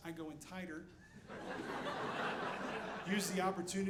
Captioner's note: audience laughing